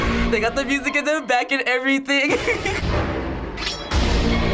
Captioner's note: eerie music; giggles